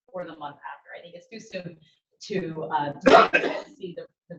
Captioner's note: attendee coughing